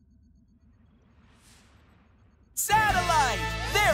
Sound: none

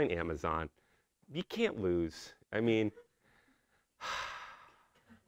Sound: sigh

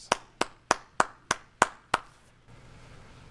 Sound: clapping

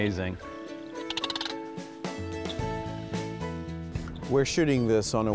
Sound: sandhill crane chirping

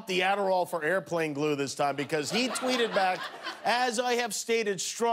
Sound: laughter

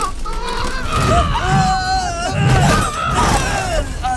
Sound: both scream, groan

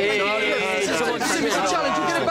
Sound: all chattering

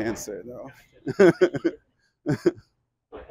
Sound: laughs

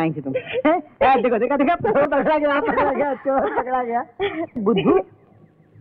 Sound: laughs

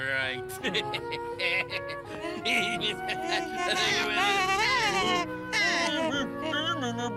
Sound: melancholy music; birds laughing

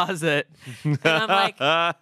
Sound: laughs

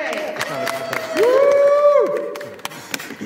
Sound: applause

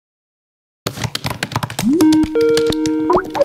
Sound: keyboarding; internet phone rings

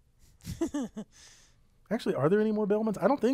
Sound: laugh

